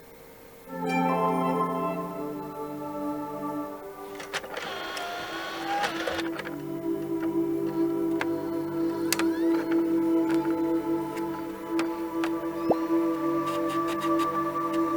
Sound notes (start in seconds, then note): 0.7 upbeat music; 7.6 engine revving